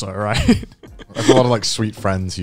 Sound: chuckling

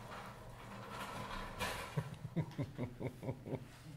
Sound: laughs

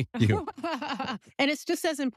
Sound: laugh

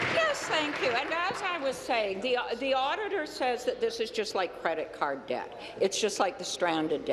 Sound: applause

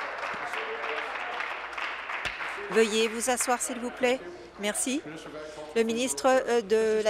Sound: applause

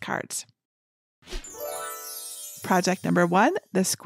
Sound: magical chiming

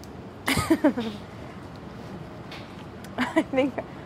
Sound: laughs

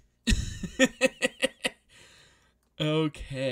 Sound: laughs

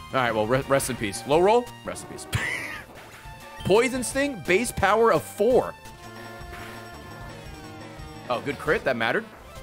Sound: laughs

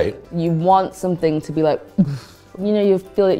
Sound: imitates air whooshing

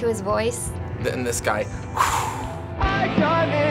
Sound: blows

